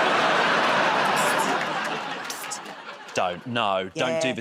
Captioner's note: laughter and applause